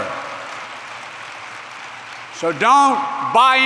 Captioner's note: applause